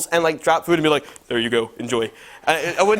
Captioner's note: deep voice; normal voice